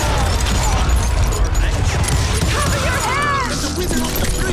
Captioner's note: gunshots